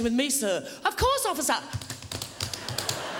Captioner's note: tapping